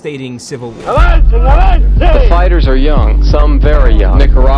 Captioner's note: voiceover